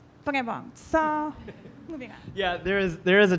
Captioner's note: laughing